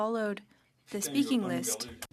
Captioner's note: speaking French